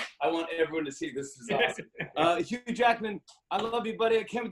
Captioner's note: laughs